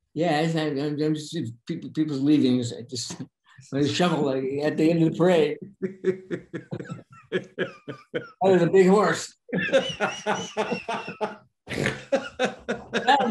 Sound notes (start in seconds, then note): 5.6 Denis laughing; 9.5 both laughing